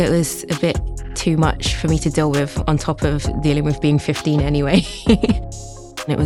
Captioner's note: laughs